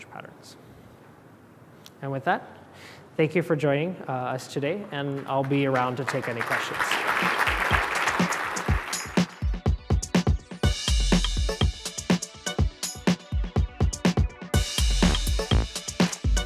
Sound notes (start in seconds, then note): 6.9 applause